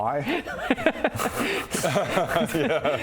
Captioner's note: stupid laugh